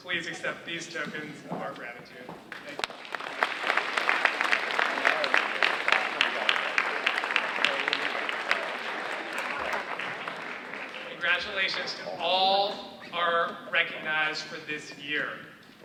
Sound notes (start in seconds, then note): 3.0 audience applauding